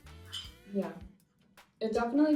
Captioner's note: bowl clinking